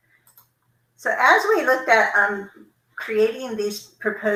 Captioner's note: computer mouse clicking